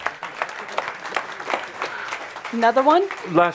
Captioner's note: audience applause